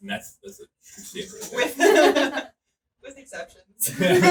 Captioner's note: laughing